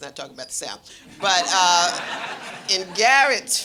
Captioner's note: audience laughing